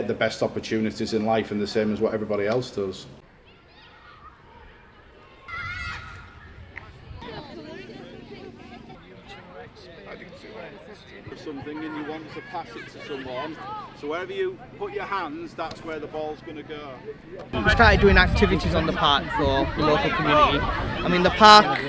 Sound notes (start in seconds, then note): 3.5 laughter, excited chatter